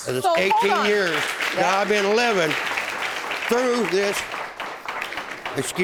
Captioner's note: audience applauding